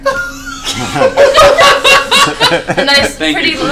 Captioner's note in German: Gelächter